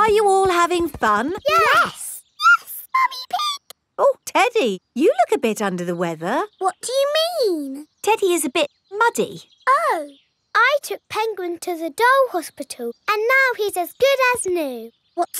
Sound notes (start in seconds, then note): 2.4 in high-pitched voice; 6.8 in normal voice